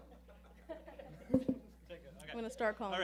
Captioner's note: laughing